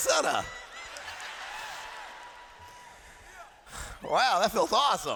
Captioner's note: laughter